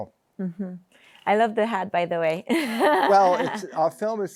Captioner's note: laughs